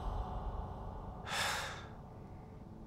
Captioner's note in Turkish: Nefes veriyor